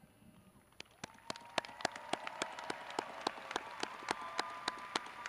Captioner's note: graduates cheering